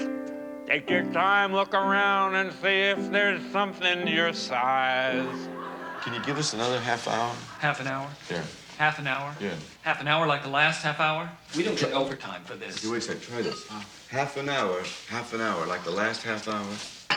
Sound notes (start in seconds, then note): 4.9 audience laughs